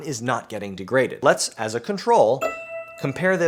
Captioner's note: bell dings